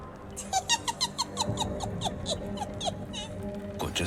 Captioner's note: laughing